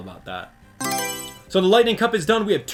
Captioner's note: Mario Selection Sound